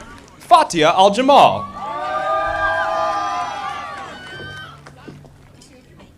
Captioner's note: audience applauding